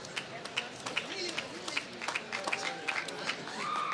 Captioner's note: applause